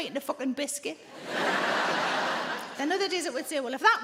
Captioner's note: audience laughing